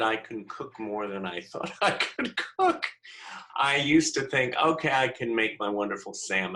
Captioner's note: laughter